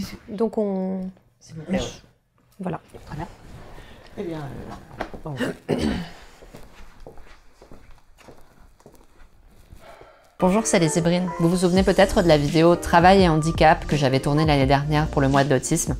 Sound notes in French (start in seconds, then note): 5.3 se racle la gorge; 9.8 soupir